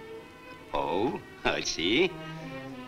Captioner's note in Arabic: يضحك